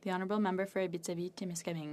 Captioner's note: speaking French